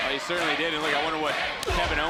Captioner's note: crowd chants "Tate"